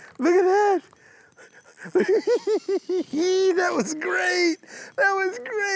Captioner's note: laughing